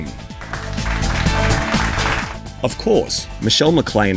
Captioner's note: audience clapping